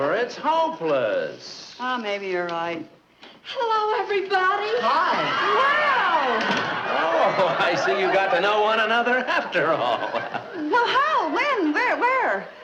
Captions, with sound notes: - Oh, maybe you're right. - Hello, everybody! - Hi! (audience laughing) - Wow! - Oh, I see you got to know one another, after all. (Brad chuckling) - Well how? When? Where?